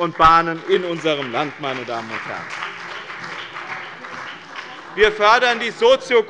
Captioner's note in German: Beifall bei dem BÜNDNIS 90/DIE GRÜNEN und der CDU